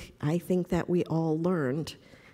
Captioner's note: none